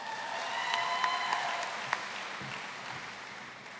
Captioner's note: applause